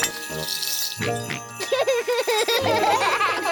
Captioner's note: snorts and giggles; all laugh